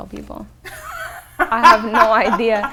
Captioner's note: laughs